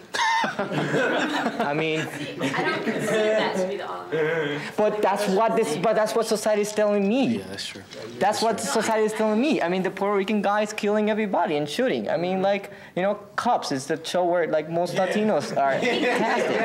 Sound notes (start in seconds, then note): 0.1 audience laughing; 2.0 murmurs; 7.4 student speaking from the background